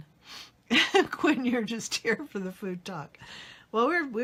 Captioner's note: laughs